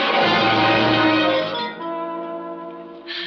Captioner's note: gasps